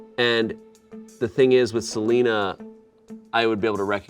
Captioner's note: none